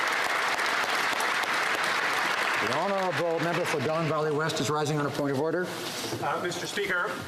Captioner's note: applause